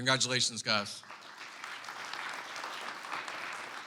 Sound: clapping

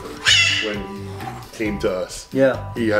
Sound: bird squawking loudly

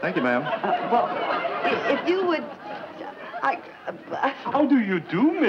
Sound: Joan stammers

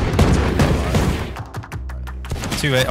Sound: gun banging

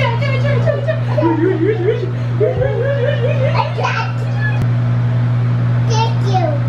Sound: playful exclamations

